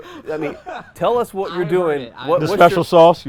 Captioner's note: camera men laugh